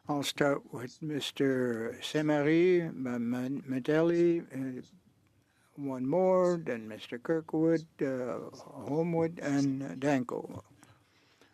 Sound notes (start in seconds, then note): 2.9 speaking French